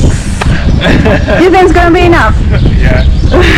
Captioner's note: laughing